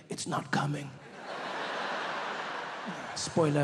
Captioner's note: audience laughing